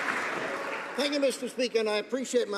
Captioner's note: some Applause